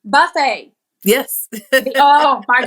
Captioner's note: laugh